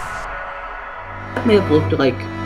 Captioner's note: thump